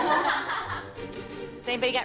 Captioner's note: laughter